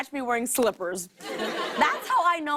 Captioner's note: laughter